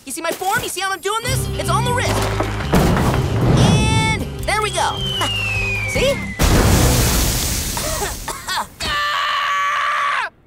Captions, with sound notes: You see how I'm doing this? It's all in the wrist. And, there we go. [chuckles] See? [coughing] [screaming]